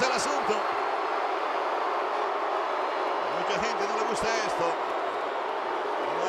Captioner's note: applause